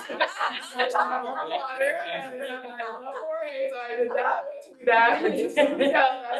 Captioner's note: board members laughing and chattering